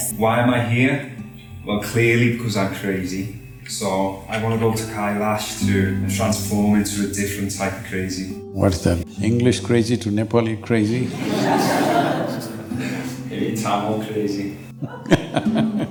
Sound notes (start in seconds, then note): 11.0 laughter; 11.0 Sadhguru laughs